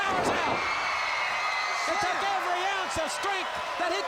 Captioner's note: crowd cheering